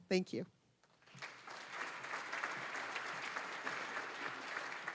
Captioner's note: applause